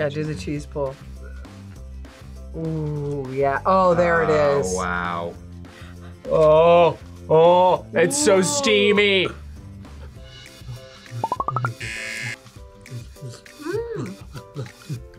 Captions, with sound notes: - Yeah, do the cheese pull. Ooh yeah, oh, there it is. - Oh wow. - Oh, oh, it's so steamy! (buzzer) - Mmm!